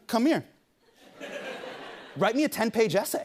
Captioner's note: laughter